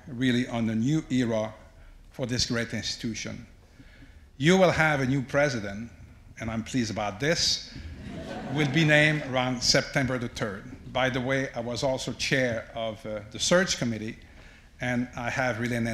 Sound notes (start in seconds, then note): 7.9 audience laughs